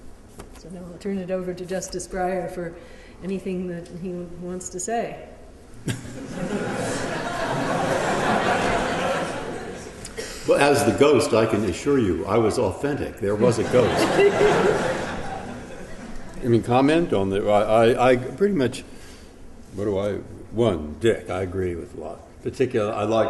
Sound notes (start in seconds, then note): 5.8 laughter